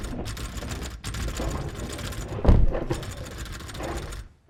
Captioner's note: rattling and thumping continue